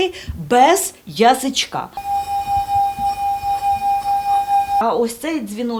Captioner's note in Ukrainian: Звучить дзвіночок